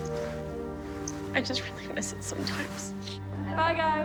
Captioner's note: sniffles